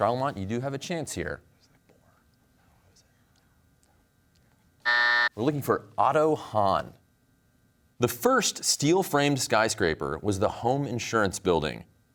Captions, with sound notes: Charlemont, you do have a chance here. (team whispering) (buzzer sounds) We're looking for Otto Hahn. The first steel-framed skyscraper was the Home Insurance Building.